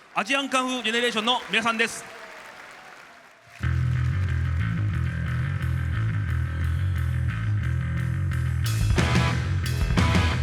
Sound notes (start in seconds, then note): 2.4 applause